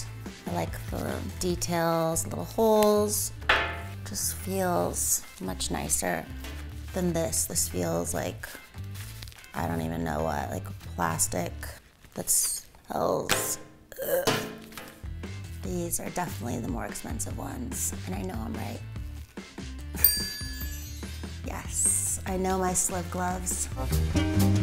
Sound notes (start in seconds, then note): 20.0 bell dings